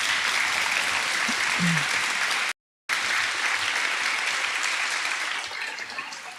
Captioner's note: audience applauding